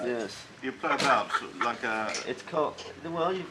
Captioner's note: laughs